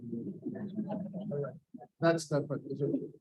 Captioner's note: audience laughs